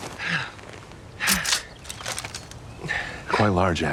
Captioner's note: gun cocks